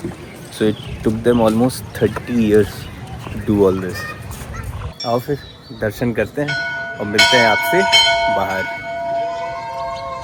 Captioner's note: bells clanging